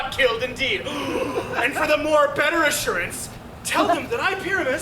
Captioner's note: gasps